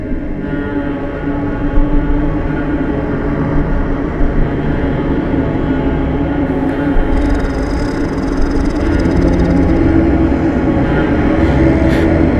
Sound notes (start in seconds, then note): 0.3 menacing, eerie music; 8.8 demonic growl